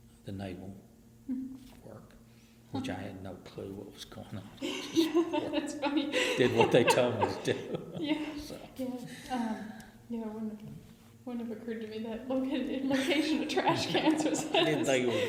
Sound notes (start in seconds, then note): 4.6 BOTH laugh; 12.0 BOTH laugh